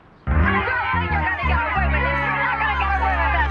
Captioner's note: shouting